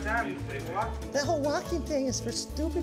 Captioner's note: bad japanese accent